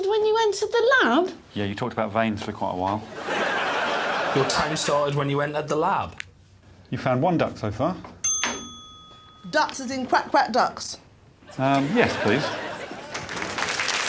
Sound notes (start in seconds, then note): 8.2 bell rings